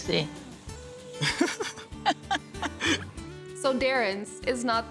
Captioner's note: chuckling